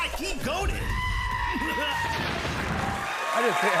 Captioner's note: goat screaming